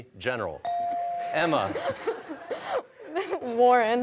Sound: laughter

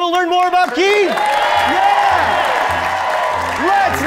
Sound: crowd; audience cheering

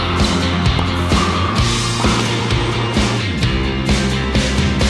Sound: ball thwacking off walls

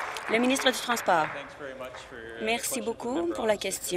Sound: applause

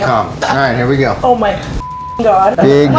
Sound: beep

